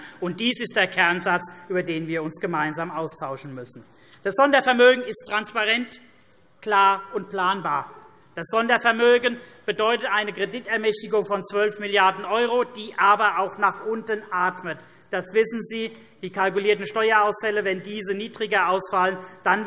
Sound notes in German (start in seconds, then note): none